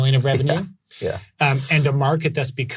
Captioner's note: laughs